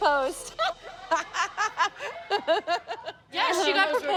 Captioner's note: laughing